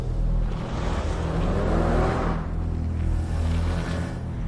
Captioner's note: engine revving